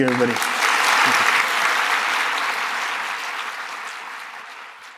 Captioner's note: applause